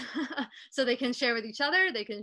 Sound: chuckling

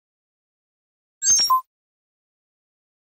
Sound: sound of high tech bleep

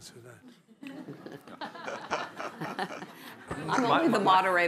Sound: laughter

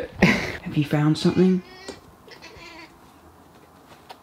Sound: cat mewing

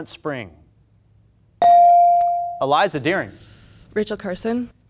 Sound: buzzer pings

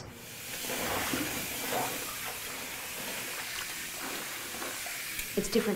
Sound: water running

